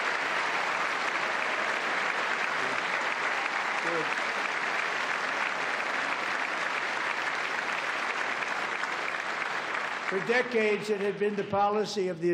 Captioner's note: applause